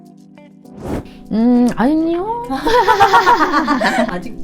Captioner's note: laugh